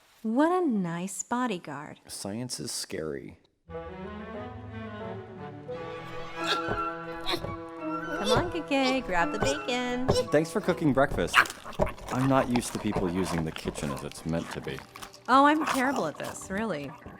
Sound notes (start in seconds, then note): 8.0 Kakkay grunting